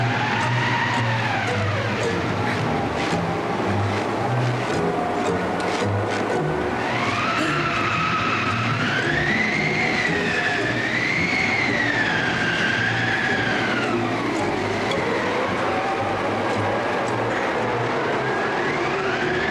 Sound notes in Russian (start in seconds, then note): 6.9 крик